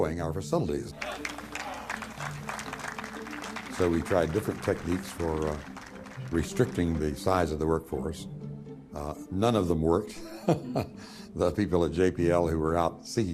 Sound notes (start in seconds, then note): 3.3 people applauding; 10.2 laughing